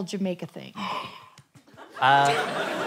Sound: gasps

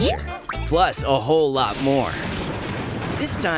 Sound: rain and environmental sounds

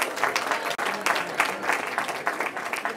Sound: cheering

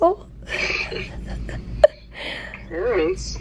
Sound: chuckling

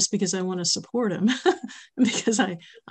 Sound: laughs

